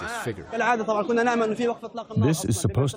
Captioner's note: through translator